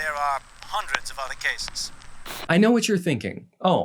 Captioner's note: old timey static ends